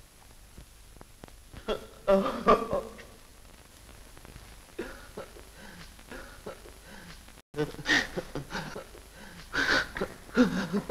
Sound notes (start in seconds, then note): 2.0 crying; 7.5 sobbing